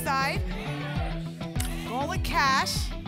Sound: audience shouting icons

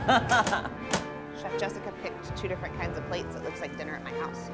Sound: laughing

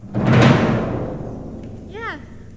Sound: thunderstorm

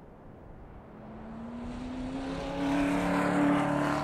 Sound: engine roars

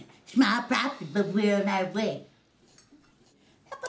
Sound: in funny voice

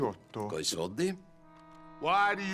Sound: in Italian

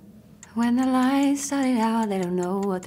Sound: clock ticking

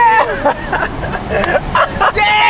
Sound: laughing

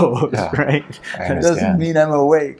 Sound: laughs

